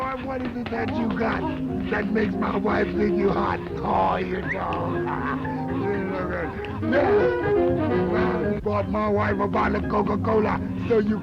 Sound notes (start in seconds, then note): 5.5 laughs